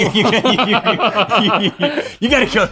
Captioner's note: both laughing